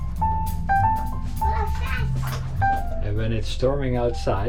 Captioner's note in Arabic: يغمغم